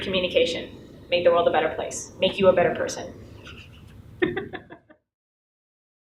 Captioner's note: laughs